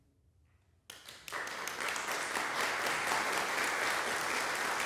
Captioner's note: silence; applause breaks out; applause continues